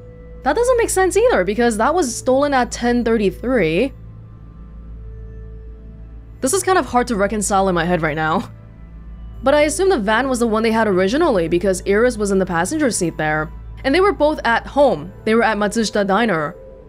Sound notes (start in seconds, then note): none